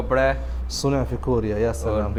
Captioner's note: Arabic